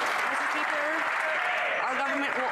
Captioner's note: some Applause